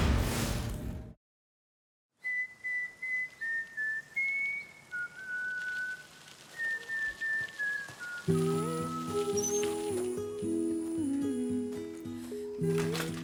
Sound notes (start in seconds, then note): 2.4 whistling; 8.3 mellow guitar melody playing